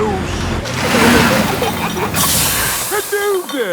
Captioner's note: peppa and george giggling; air hisses